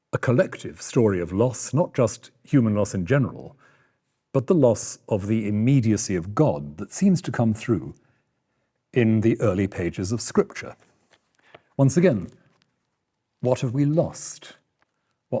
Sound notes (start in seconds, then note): none